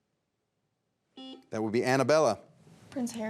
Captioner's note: buzzer beeps